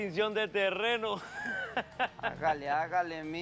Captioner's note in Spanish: risas